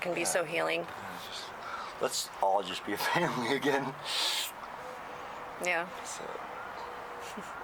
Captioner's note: laughs